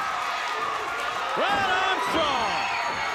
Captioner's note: audience cheers